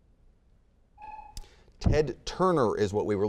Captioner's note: buzzer beeping